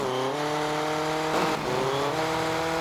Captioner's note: engine revving